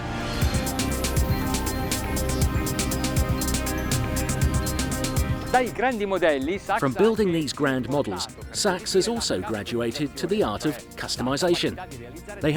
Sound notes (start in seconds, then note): 0.2 upbeat music; 5.6 foreign language